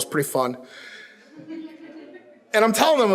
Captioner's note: audience chuckles